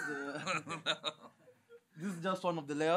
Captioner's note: laughter